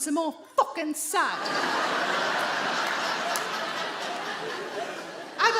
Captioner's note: audience laughs